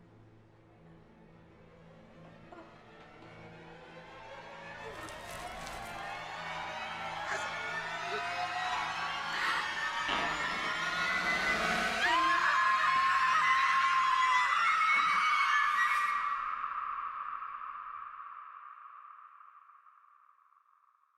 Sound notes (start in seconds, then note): 0.3 suspenseful instrumental music; 12.2 screaming